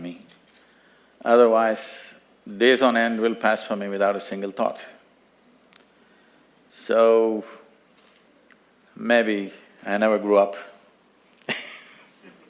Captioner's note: few laugh